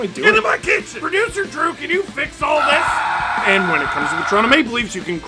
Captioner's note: screaming